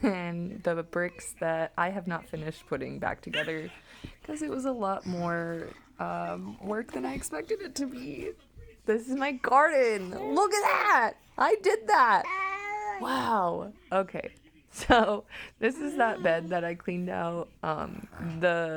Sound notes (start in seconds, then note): 12.2 baby excitement sounds in background